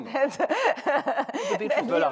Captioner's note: laughter